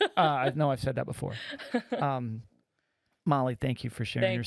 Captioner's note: laughing